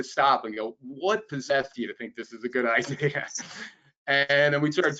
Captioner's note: laughs